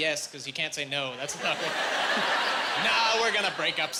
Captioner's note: laughing